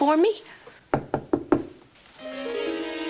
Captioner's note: knocking on door